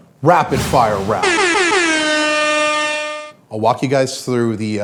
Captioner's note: logo swooshing